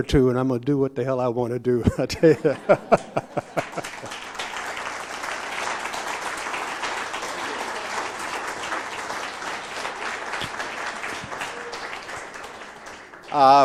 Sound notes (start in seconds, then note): 1.8 laughter; 4.1 applause